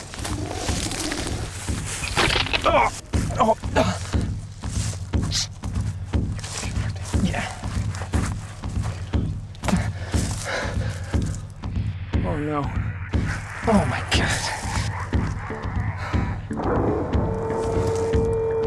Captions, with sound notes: [ EGG SPLATTERING ] UGH! OH, NO. OH, MY GOD.